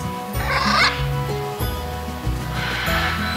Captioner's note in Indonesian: Suara Burung